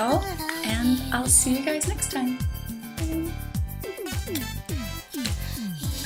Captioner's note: kiss